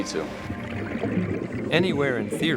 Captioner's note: water splashing